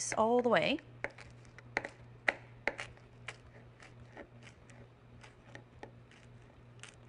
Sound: chopping

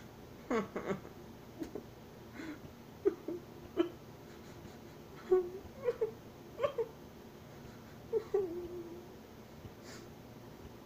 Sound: cries

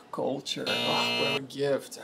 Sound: alarm buzzing

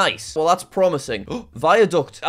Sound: gasps

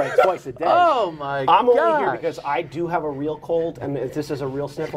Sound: laughter

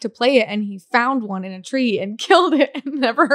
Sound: laughs

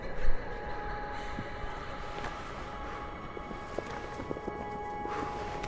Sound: birds singing in the distance; flag flapping in the wind

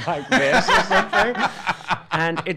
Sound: laughing

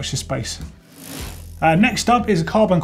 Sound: bike wheel whirring

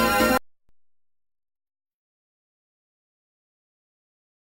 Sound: silence

